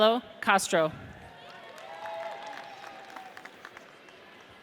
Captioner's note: audience cheers